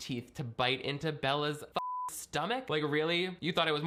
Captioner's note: beep